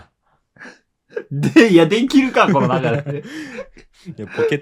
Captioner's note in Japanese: 笑い; 息をのむ音